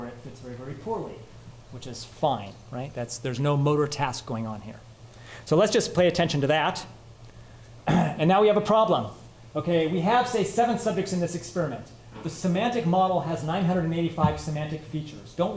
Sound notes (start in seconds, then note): 7.8 clears throat